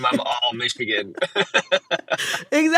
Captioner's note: laughter